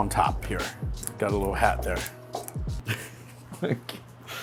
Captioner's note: laughs